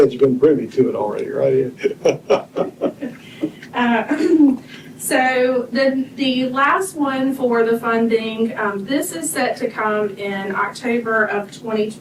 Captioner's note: laughter